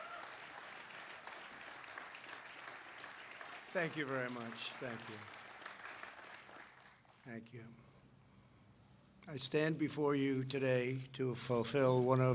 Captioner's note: applause